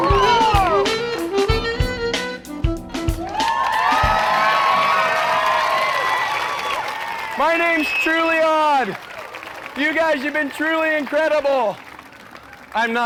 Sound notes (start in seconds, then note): 3.1 audience cheering and applauding